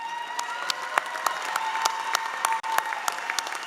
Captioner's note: applause